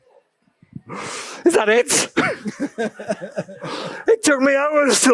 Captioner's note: laughs/śmiech